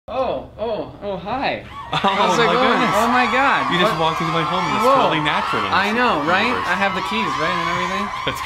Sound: loud cheering and clapping

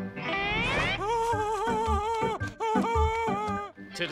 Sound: laughing

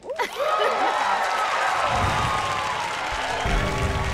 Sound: cheers and applause; soft dramatic music

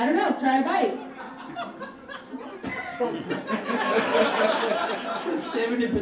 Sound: audience laughing

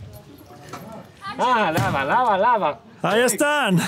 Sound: speaking Armenian

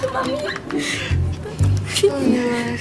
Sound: Aida and Ella giggle

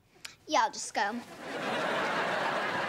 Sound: laughing

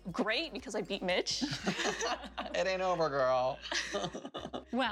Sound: laughter

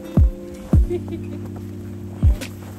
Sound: snickers

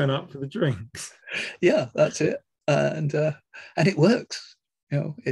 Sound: laugh

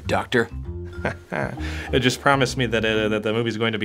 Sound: chuckling

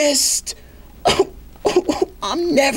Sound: begins to cry

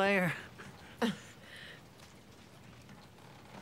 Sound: laughs

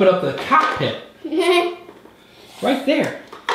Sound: laughing

